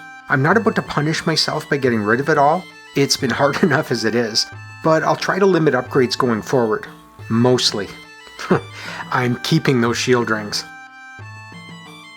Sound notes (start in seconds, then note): 8.4 chuckles